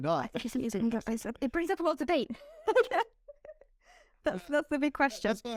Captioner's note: laughter